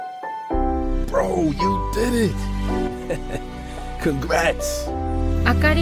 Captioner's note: laughing